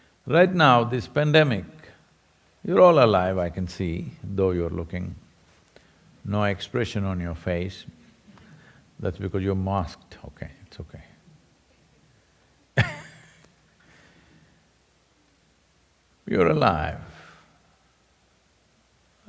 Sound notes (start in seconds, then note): 12.8 laughs